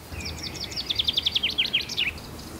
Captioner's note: chirping of birds